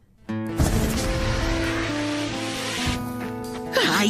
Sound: electric whirring

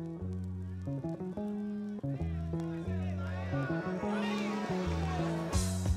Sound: people shouting; upbeat jazz music

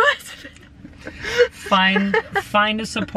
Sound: laughing

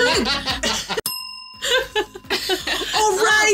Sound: group laughing; bell dinging

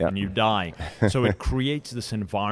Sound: host chuckles

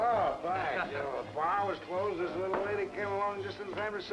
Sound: man slurring

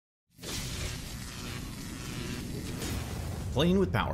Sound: electricity zapping

